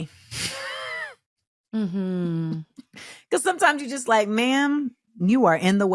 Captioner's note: laughs